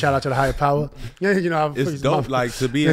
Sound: laughing

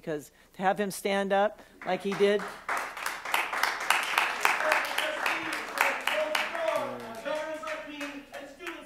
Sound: applause

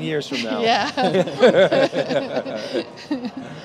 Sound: all laugh

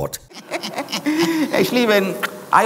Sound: men laughing

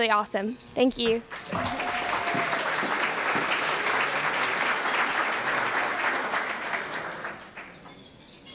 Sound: applause

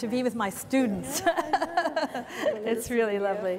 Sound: laughs

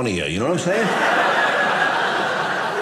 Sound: audience laughing

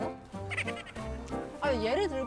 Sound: laughing

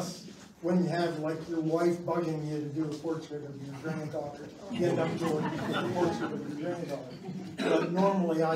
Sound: laughs

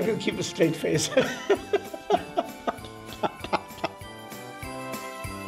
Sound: laughter

